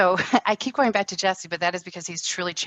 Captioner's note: laughs